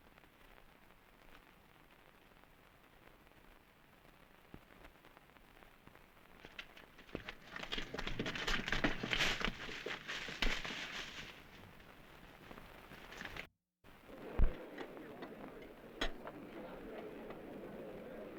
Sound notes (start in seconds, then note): 13.9 background chatter